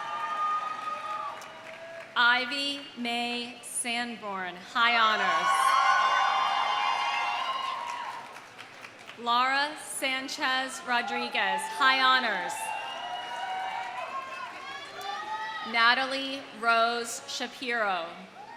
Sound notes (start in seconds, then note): 0.0 audience cheering; 0.0 audience applauding; 5.1 audience cheering; 5.6 audience applauding; 12.6 audience applauding; 12.7 audience cheering